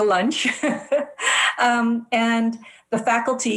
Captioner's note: laughs